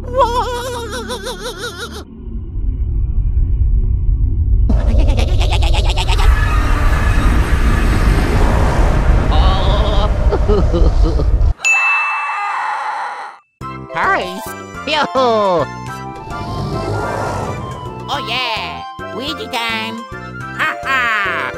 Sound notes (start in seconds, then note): 10.7 crying; 12.0 scream